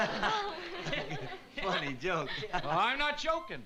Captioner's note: laughs